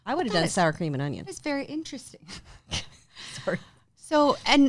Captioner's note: laughs